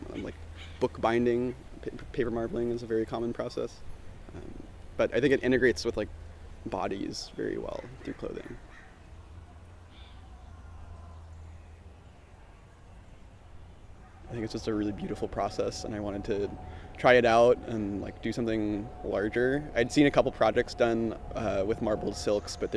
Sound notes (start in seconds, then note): 9.2 birds chirping